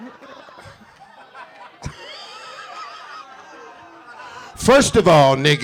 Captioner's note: audience laughing; group jeering lightly